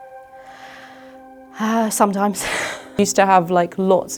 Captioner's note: sighs